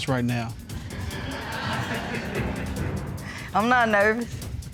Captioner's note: audience laughing